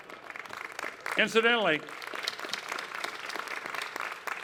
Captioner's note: clapping